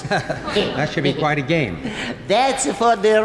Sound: chuckles

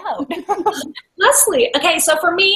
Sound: laughs

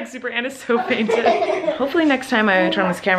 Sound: kids laugh

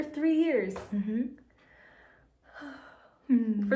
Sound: sighs

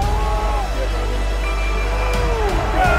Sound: cheering

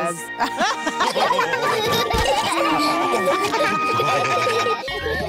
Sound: all laugh; kids giggling

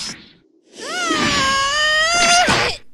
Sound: GOHAN screams

